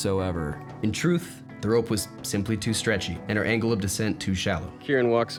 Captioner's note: narrating